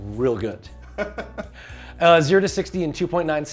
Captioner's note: laughs